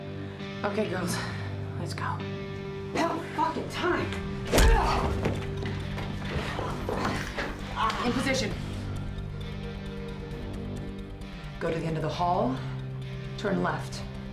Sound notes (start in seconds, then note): 4.5 groans